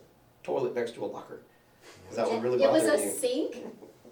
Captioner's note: laughs